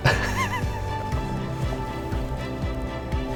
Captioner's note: laughing